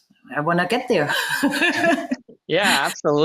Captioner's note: laughs